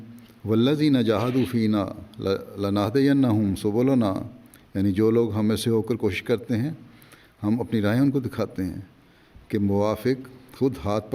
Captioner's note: Arabic